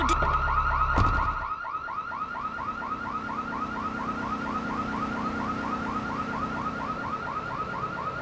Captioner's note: sirens wailing